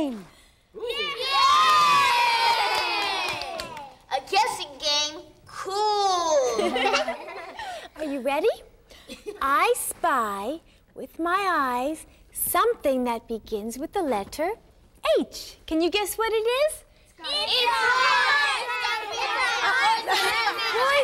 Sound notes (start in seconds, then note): 6.5 everyone laughs